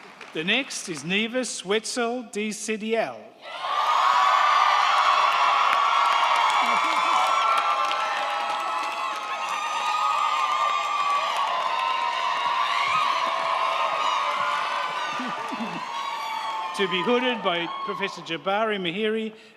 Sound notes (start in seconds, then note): 3.4 crowd cheering; 3.4 crowd clapping